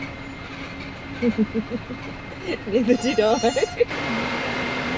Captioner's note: laughter